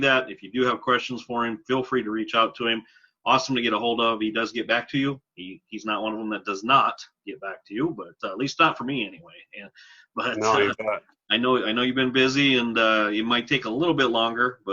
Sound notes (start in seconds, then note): 10.3 laughs